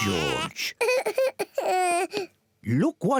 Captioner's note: cries